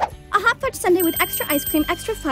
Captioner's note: bell dinging